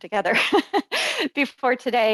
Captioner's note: laughs